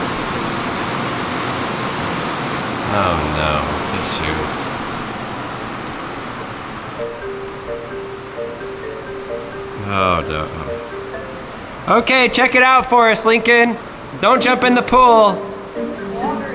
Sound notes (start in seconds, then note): 6.9 mysterious music; 9.8 home owner groans